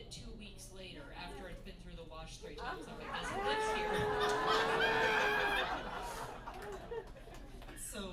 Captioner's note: laughter